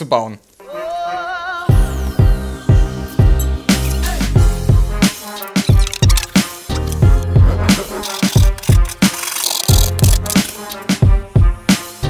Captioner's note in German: Baugeräusche